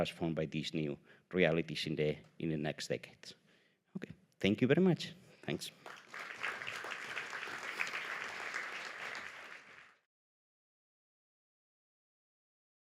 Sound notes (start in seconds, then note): 5.5 applause